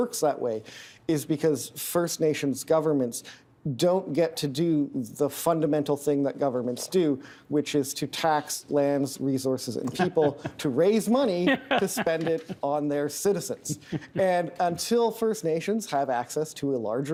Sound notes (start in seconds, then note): 9.8 laughing